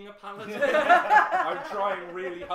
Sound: laughter

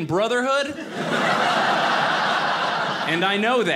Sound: audience laughing

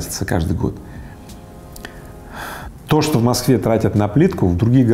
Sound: sigh

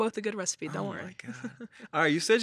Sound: chuckles

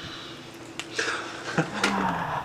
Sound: audience laughs

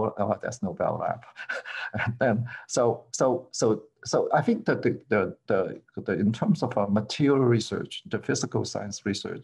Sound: laughter

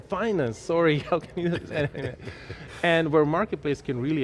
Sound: both laughing

